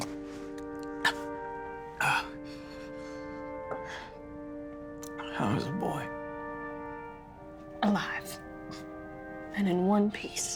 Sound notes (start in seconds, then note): 1.4 struggles to swallow; 3.1 panting